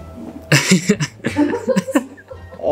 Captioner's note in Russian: смеется